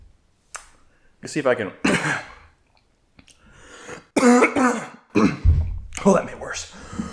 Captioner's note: coughing